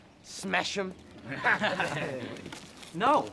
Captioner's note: group chuckles